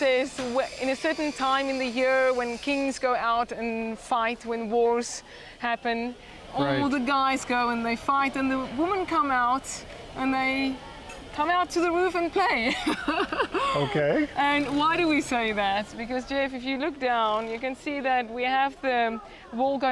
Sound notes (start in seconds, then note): 12.6 laughing